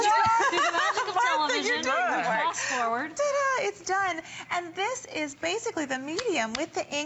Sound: laughter

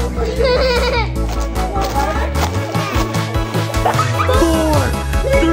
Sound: party horns make crinkling sounds

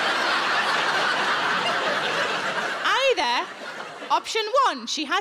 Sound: audience laughing

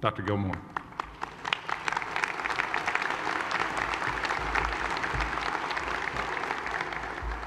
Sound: applause

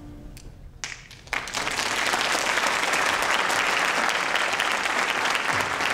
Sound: audience applauding

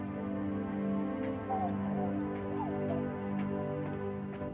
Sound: Muffy whimpers

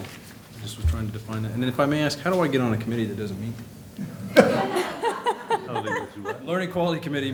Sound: laughter

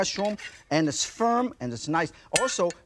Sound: knife swishes; knife clinks

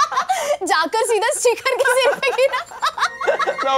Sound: laughter; laughter continues

